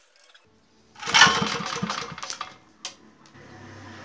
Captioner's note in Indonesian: bunyi mesin